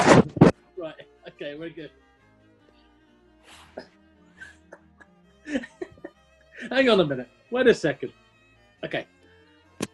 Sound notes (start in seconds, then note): 5.4 giggling